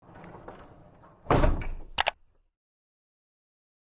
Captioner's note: click